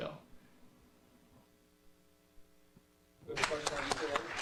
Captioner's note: pause; clapping